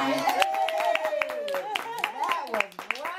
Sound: clapping and cheering

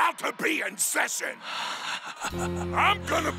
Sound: laughs

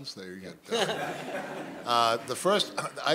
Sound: laughter

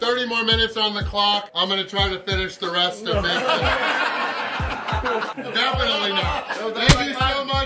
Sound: haha

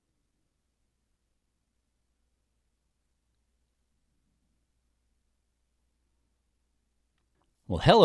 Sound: silence

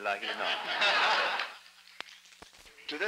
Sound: laughter

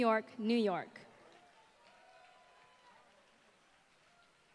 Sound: applause

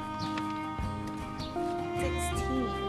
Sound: birds chirping

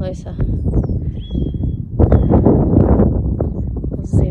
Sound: wind blusters loudly

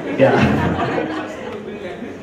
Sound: laugher

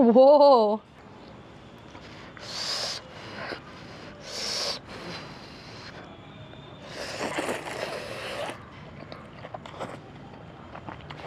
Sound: noddles ASMR

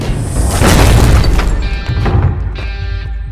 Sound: door opens

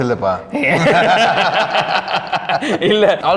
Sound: laughs

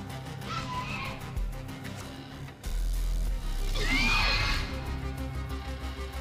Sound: Velociraptor chirping; intense music

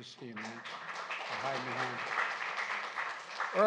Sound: applause

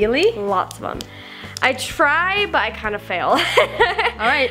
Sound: laughs

